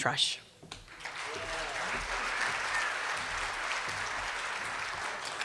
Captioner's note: cheers and applause